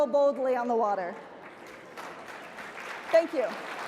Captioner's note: audience applauds